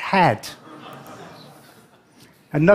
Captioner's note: laughter